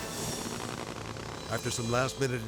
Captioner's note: vehicle idling